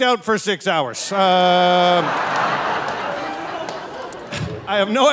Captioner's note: audience laughing; laughing